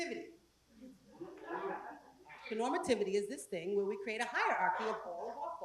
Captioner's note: laugh